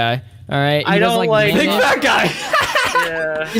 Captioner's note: laughs